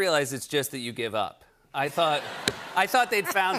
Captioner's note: laughter